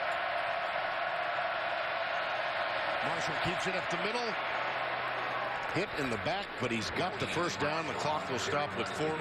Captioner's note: crowd noise